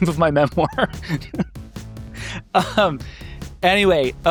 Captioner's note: upbeat music; laughing